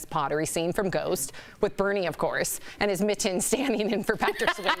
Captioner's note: laughter